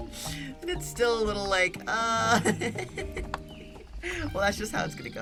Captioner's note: giggles